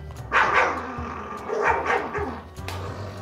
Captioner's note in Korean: 부릉 부릉